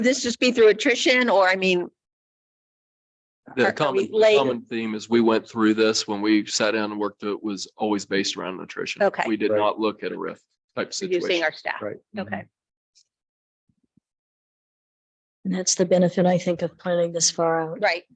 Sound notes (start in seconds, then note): 3.5 sound distorted